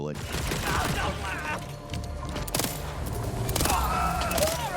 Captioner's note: guns firing